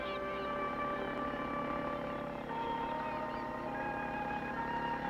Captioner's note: motor running